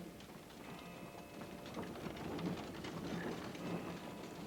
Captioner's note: wagon rattling